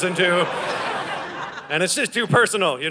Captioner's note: audience laughing